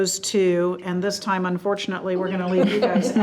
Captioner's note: group laughs